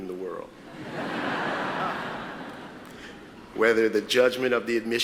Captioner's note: audience laughs